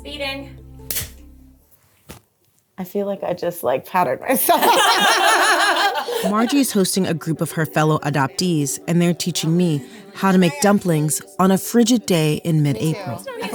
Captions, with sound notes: - Speeding. [Claps] I feel like I just like powdered myself. [Laughing] Margie's hosting a group of her fellow adoptees, and they're teaching me how to make dumplings on a frigid day in mid-April.